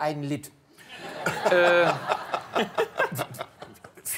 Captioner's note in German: Lachen